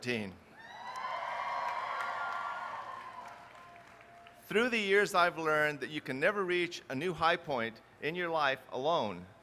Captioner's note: applause